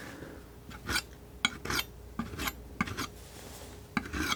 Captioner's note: scratching